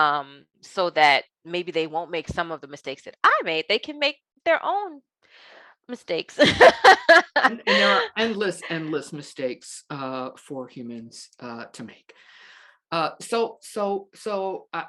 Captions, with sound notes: so that maybe they won't make some of the mistakes that I made. They can make their own mistakes. (laughing) You know, endless, endless mistakes for humans to make.